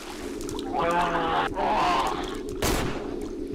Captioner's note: screaming